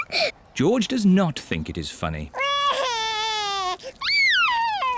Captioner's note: giggles; cries